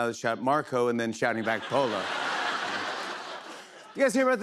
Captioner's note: laughter